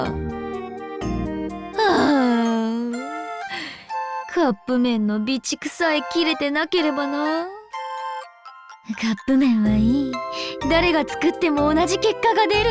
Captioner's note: sigh